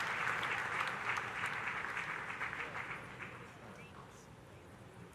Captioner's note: audience applauding